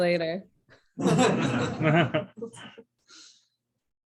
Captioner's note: laughter